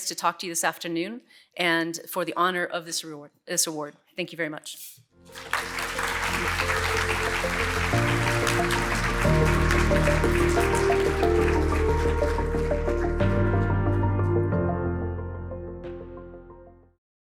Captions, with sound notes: to talk to you this afternoon, and for the honor of this award. Thank you very much. (audience applauds) (soft instrumental music)